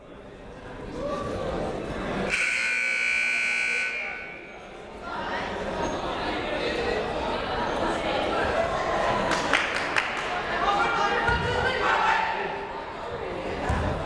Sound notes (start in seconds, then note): 2.3 siren buzzing